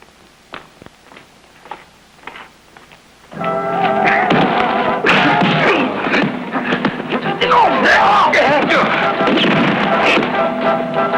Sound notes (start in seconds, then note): 3.5 crying out; 4.0 whacking